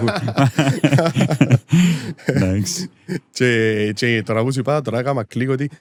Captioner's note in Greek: γέλιο